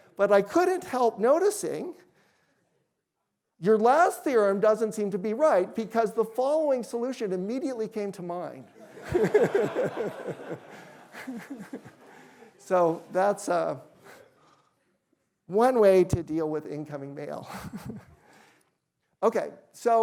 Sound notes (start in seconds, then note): 8.7 laughter; 17.4 chuckles